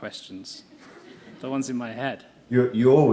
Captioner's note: laughter